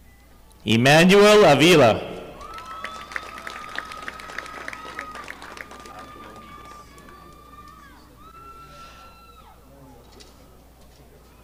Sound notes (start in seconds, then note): 2.3 audience applauding